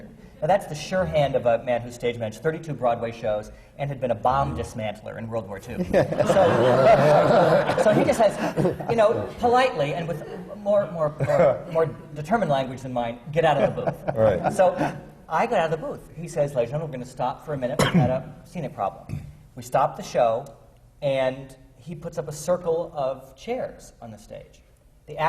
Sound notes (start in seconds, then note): 5.8 laughter; 13.5 laughter